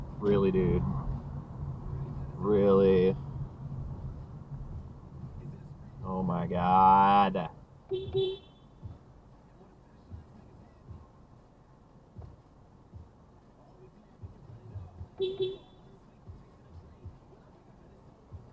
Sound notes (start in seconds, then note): 7.9 beepbeep